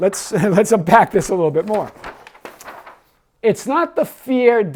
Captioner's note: laughs